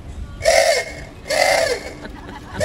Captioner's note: foghorn; laughing